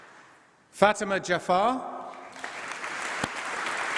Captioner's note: applause